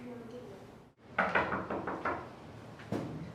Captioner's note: knocking